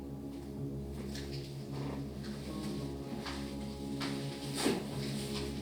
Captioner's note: footsteps